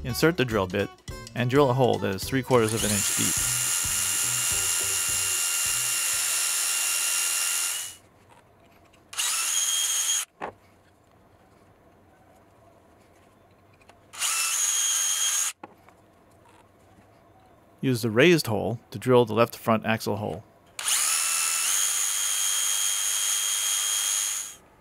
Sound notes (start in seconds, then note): 5.0 drilling; 9.1 drilling; 14.1 drilling; 20.8 drilling